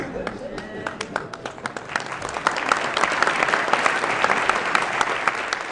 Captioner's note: laughing and applause